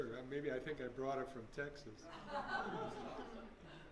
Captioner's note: laughter